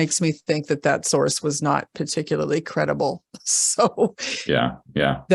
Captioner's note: laughs